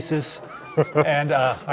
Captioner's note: chuckles